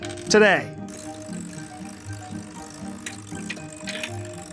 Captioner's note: machine rolling